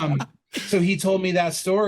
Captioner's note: laughter